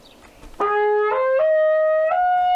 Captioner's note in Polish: trąbi przeciągle